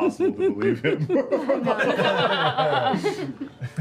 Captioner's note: laughing